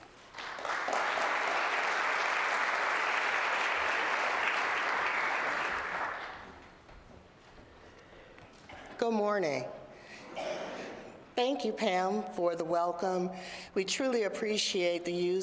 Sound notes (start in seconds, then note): 5.5 applause